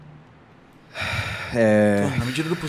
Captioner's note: sigh